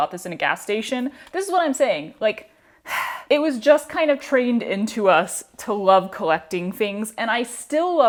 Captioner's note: sigh